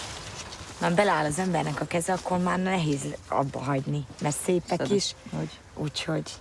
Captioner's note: speaking in foreign language